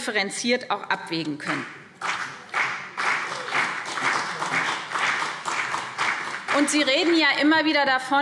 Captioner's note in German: Beifall BÜNDNIS 90/DIE GRÜNEN und vereinzelt CDU